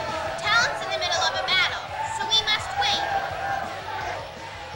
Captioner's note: crowd booing